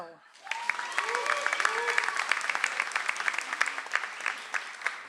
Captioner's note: audience applauds